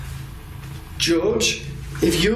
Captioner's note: quiet static